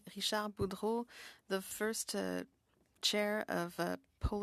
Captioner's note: speaking French